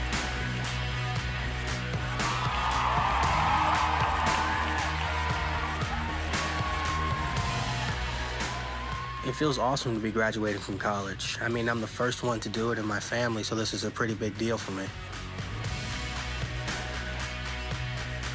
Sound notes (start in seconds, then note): 2.0 cheering